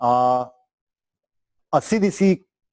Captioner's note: pause